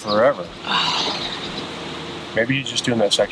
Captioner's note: sighing